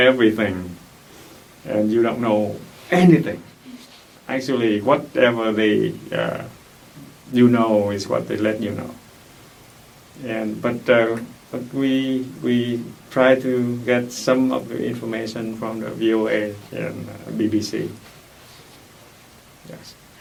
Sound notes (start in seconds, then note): none